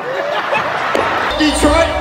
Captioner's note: audience laughing